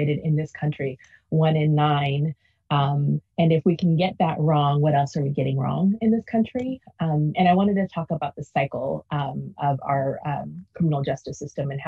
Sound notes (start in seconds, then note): none